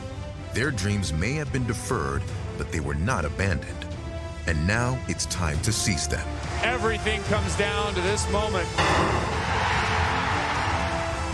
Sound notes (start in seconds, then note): 8.6 starter pistol fires; 9.0 cheers and applause